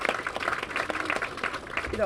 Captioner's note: applause